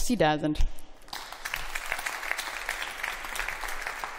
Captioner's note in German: Beifall